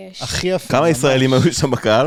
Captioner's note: mocking tone